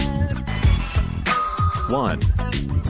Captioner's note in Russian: дзынь